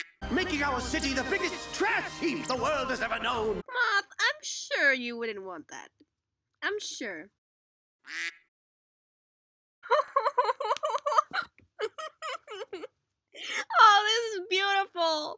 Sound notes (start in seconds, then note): 0.8 reversed; 8.0 quack; 10.7 clap clap; 13.4 breath